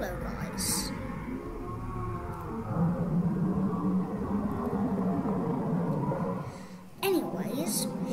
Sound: Goatman Noises

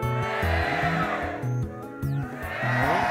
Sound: cheering

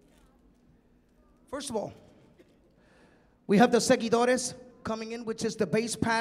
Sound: speaking in Spanish

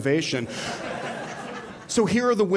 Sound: laughter

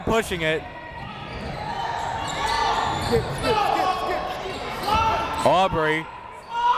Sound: crowd talking; coaches yelling

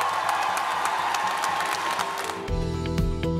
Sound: cheers and applause

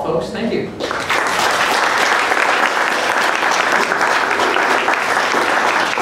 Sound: applause

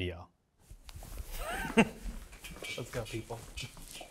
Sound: footsteps clicking on floor

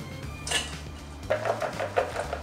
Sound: upbeat instrumental music; corn rattling; cabbage crashing

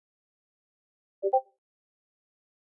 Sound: discord ping

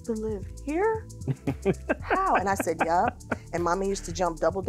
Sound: chuckling

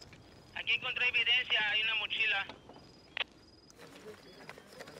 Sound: man on radio speaks Spanish

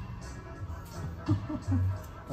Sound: laughs

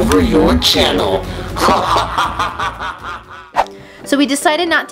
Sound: evil laughter

